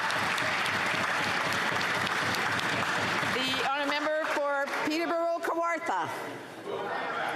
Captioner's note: some Applause